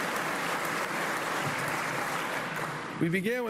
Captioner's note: applause